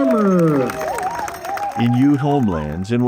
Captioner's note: crowd cheering